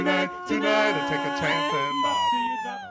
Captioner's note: screaming; falsetto